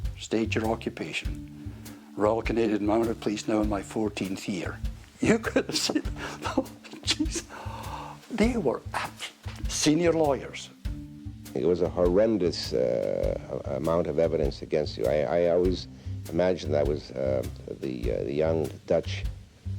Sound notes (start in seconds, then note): 5.2 laughs; 8.9 chuckles